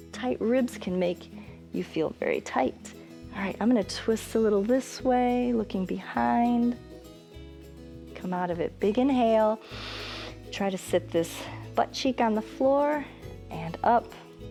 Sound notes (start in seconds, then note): 9.6 inhales